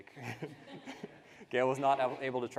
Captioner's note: participants laughing